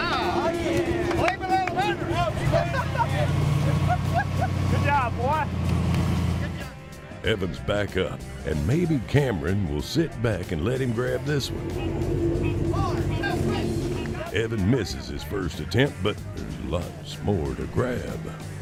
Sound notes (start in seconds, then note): 2.2 laughing